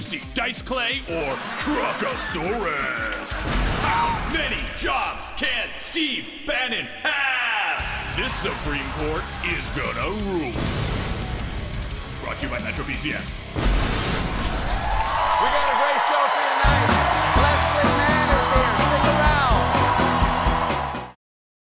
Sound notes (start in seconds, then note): 14.4 cheers and applause